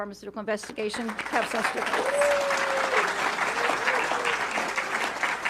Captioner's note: audience clapping